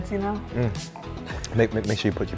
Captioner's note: grunting